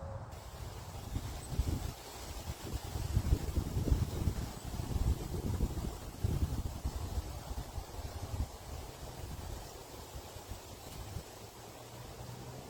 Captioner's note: leaves rustling in the wind